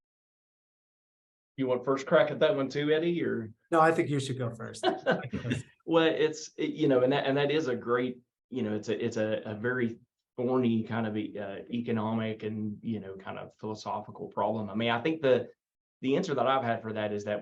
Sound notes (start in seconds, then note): 4.8 panelist laugh; 5.1 mumbles